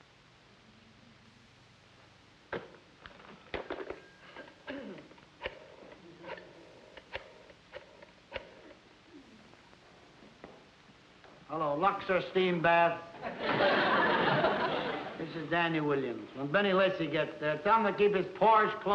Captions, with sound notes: [DIALING ROTARY PHONE] Hello, Luxor Steam Bath. [CHUCKLES] This is Danny Williams. When Benny Lessy get there, tell him to keep his pores closed